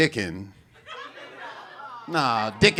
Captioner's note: audience muttering